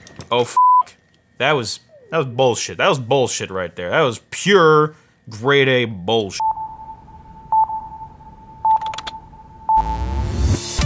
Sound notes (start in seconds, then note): 8.0 beeping